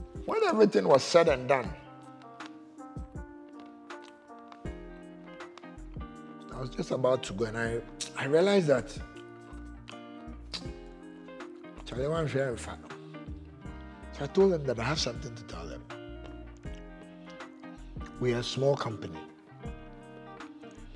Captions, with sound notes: and when everything was said and done I was just about to go and I realized that [in twi] i may not get the contract I told them that I have something to tell them we are small company